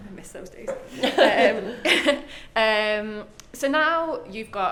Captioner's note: both laugh